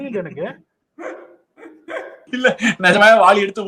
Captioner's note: laughs